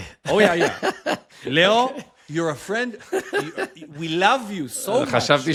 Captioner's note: laughter